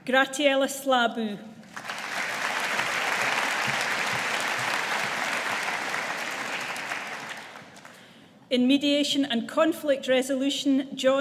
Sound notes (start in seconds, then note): 1.6 audience applauding